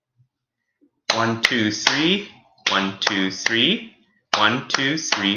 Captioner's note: claps